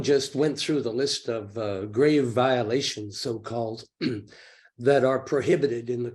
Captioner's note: clears throat